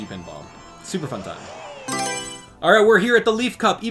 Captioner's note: Mario Selection Sound